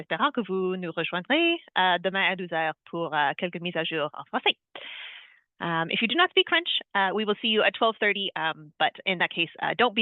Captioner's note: speaking French